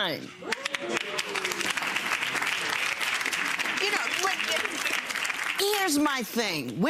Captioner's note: audience applauds